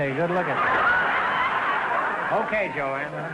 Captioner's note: audience laughter